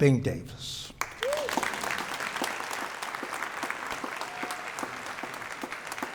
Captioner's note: audience members applauding